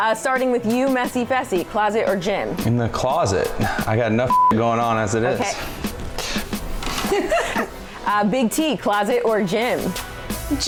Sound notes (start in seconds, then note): 4.2 beep; 6.8 laughing